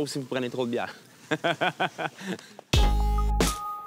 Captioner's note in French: rires